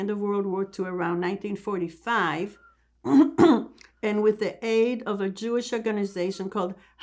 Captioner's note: clears throat